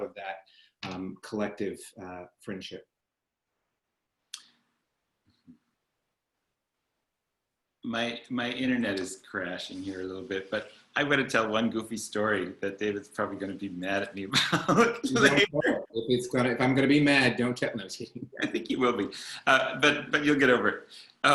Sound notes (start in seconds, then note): 14.3 chuckles